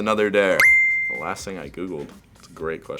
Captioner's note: ding